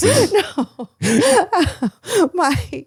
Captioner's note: laughs